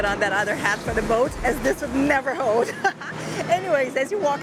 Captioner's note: laughs